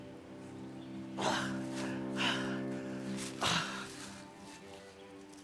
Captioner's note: Arawn breathing heavily